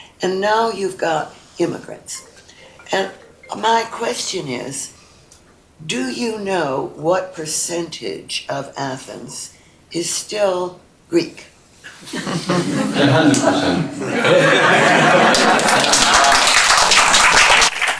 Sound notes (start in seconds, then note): 12.0 laughter; 14.9 applause